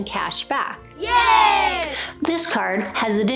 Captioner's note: kids cheering